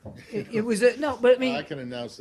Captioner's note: laughter